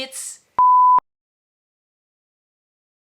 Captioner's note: beeps